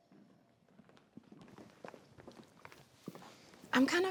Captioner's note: footsteps tapping